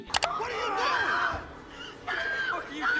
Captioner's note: person screaming